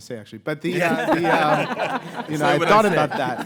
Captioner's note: all laugh